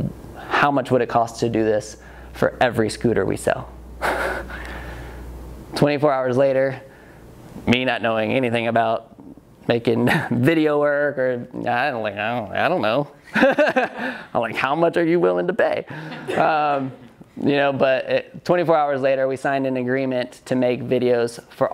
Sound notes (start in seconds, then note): 5.0 laughs; 14.0 laughs; 16.0 audience laughs